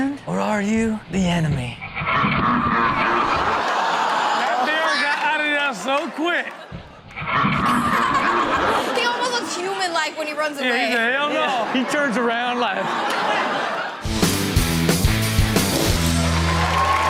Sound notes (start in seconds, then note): 1.8 clown laughs demonically; 3.4 audience laughs; 7.1 clown laughs demonically; 14.0 upbeat music